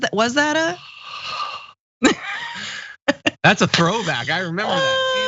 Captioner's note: laugh